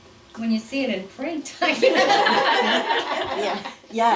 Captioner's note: laughter